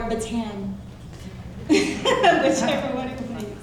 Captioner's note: laughing